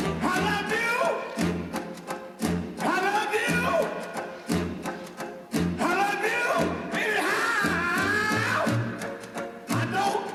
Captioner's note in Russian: крик